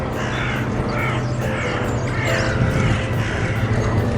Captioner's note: seagulls squawking